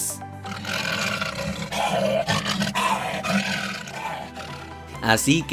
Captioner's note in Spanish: Rugidos